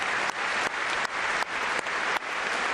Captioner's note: applause